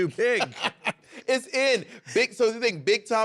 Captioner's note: laughing